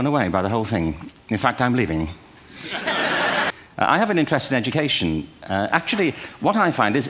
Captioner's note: laughter